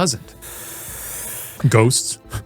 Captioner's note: inhaling